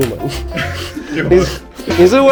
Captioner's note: laugh